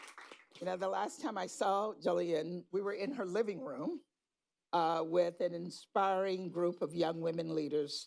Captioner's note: applause